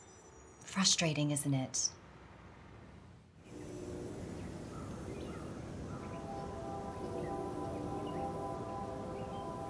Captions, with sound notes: - Frustrating isn't it? (birds chirping) (train horn blaring)